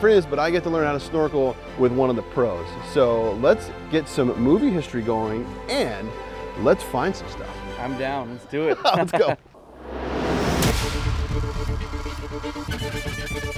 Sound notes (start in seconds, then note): 8.6 laughing; 9.6 dramatic industrial music